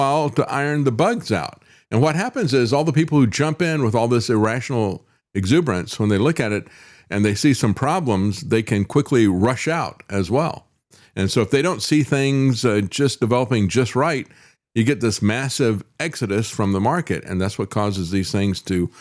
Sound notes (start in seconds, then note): none